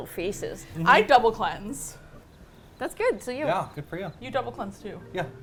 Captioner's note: crickets